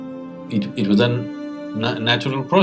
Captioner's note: talks nervously